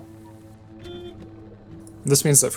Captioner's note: murderous honking